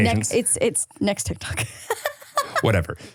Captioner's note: laughs